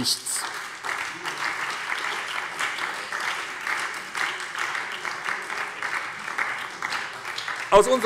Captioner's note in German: Beifall bei der SPD